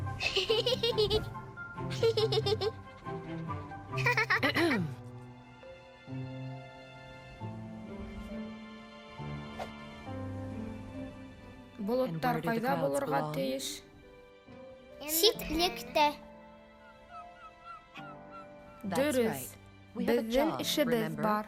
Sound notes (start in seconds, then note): 0.2 giggling of a young girl; 4.5 woman clearing her throat